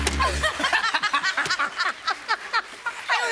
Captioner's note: sad tuba plays; laughter